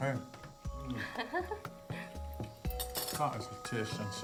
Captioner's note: chuckles